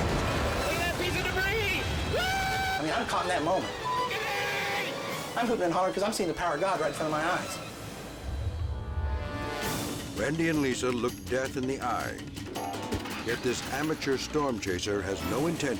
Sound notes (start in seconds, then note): 0.1 tense dramatic music; 2.1 whoops; 8.6 tense foreboding music